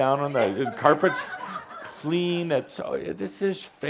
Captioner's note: some giggles